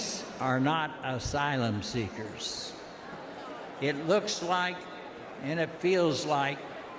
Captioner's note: shouting